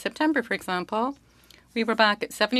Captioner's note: speaking French